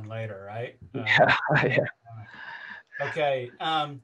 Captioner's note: laughs